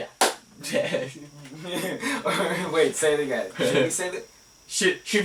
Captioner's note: chuckling